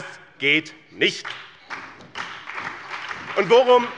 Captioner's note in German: Beifall bei dem BÜNDNIS 90/DIE GRÜNEN und der SPD